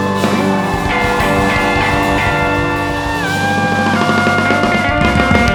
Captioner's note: upbeat music; crowd cheering; upbeat music